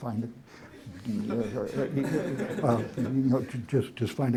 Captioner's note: laughter